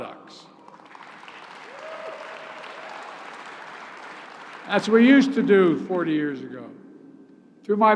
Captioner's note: applause